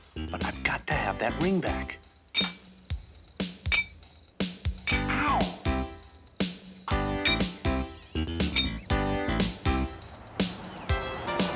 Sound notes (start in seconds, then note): 3.3 clanging; 4.8 ted groans; 8.0 upbeat music continues